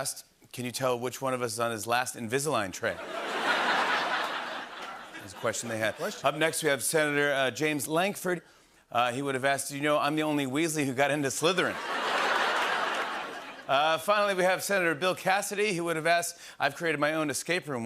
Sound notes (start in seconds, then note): 3.0 laughter; 11.7 laughter and applause